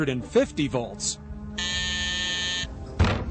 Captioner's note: buzzer buzzes; thump